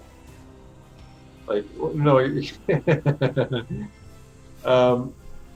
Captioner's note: laughter